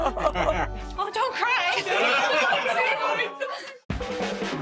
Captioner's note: crowd laughs; upbeat music